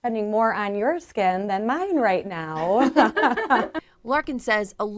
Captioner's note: laughs